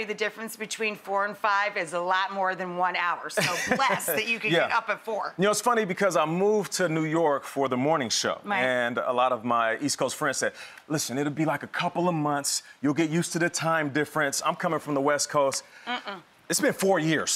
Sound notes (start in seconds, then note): 3.4 laughs